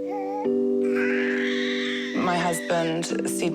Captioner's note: cries